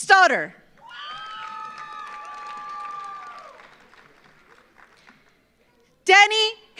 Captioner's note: audience cheers; audience applauds